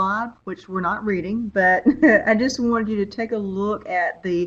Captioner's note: chuckles